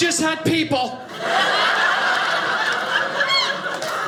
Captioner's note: audience laughing